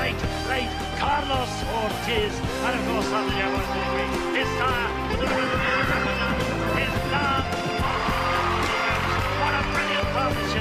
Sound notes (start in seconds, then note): 5.2 neigh